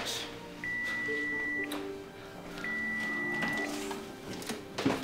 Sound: DING! A kitchen timer goes off

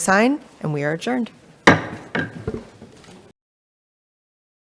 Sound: gavel taps

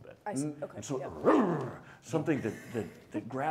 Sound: growling

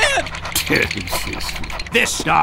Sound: amused laughter

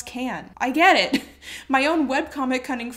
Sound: chuckles

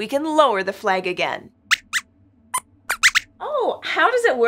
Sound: squeaks squeaks

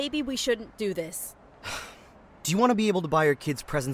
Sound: frustrated sigh

